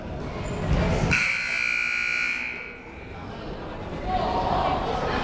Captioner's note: buzzer blares